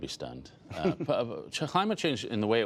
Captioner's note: laughter